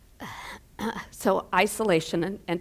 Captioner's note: getting choked up